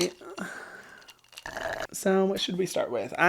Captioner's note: slurps